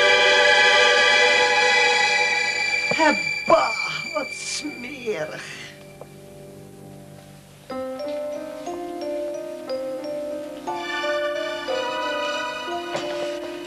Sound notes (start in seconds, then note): 2.9 speaks in Dutch